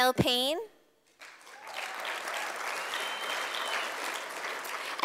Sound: sound of applause from audience

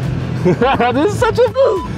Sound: laughter

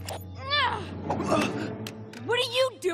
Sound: grunting

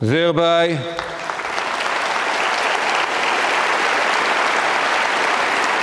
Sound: audience clapping

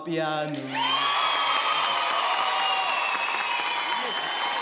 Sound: applause

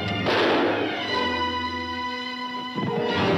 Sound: gun firing

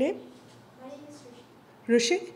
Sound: voiceover

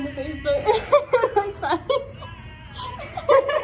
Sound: laughs

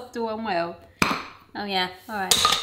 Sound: lids pops off

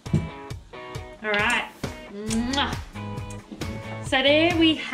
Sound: smacks lips

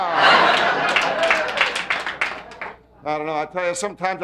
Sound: audience laughing

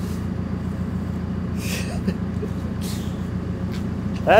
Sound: laughs

